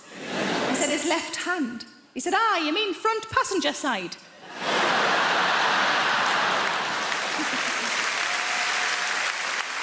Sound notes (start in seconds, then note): 4.7 crowd applause